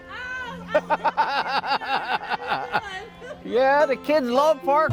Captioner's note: David laughing; neighbor replying softly; neighbor laughing